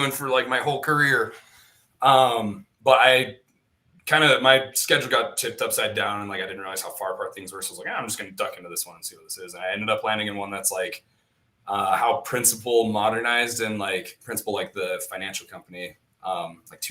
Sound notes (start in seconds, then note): none